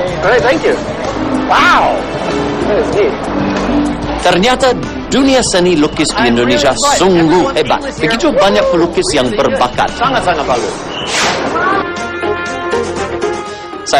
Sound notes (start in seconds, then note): 3.9 non-english speech